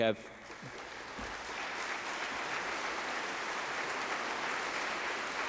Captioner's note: applause